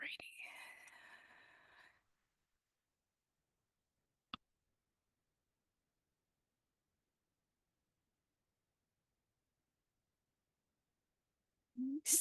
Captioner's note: silence